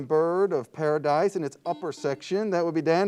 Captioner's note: buzzer beeps